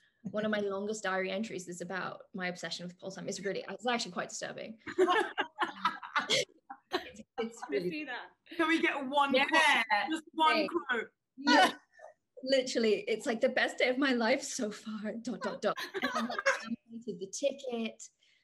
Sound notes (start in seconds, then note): 4.9 all laugh